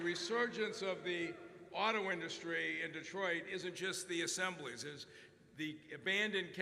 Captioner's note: applause